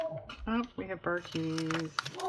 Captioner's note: dog barks